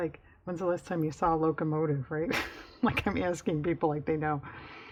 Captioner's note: laughs